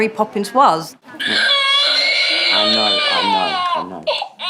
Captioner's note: toy child crying